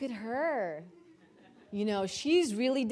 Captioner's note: audience laughing